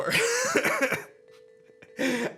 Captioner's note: chuckles